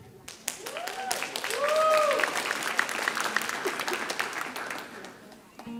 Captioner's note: audience cheering and applauding